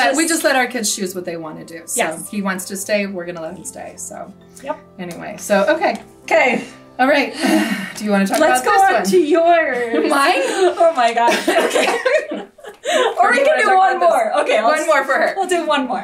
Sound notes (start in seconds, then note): 7.3 sighs; 11.1 both laugh; 11.3 coughs